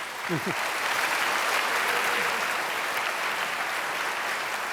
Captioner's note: applause